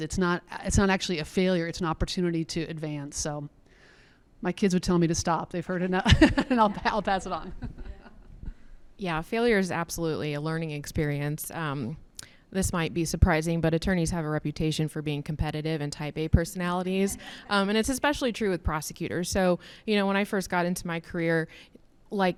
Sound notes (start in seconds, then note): 6.0 laughs